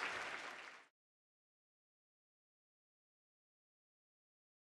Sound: silence

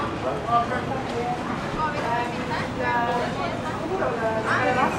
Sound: market noises and conversations

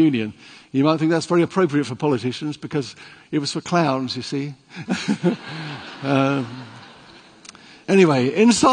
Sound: laughing

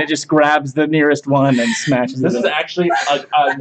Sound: continues to laugh

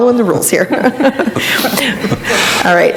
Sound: laughing

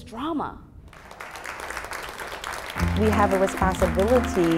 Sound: applause

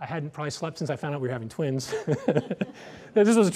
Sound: laughs

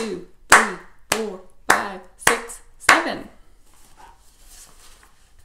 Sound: claps

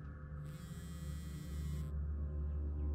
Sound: phone vibrating

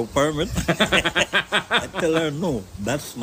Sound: laughs

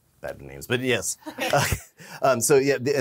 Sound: laughs

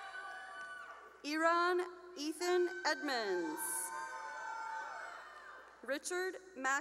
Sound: cheering

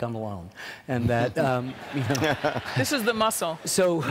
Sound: audience laughing

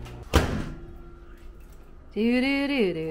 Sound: microwave hums; microwave door slams

